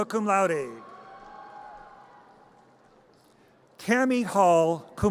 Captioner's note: audience cheers